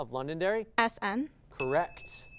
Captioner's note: ding